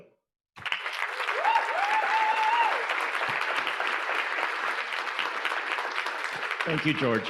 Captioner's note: audience applauding; audience cheering